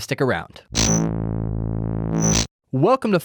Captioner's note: electronic buzz